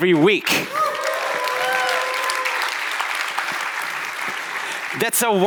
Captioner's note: audience applauding